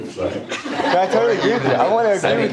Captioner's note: audience laughter